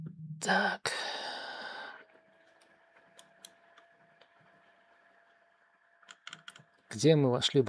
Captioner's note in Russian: вздыхает; тяжело вздыхает